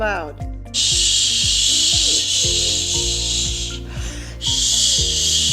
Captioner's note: making repeated loud "Shhhh" noises